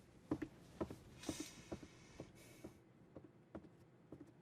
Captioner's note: feet stomping